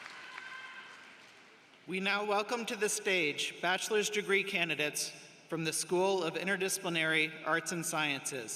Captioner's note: applause